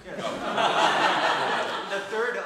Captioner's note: audience laughing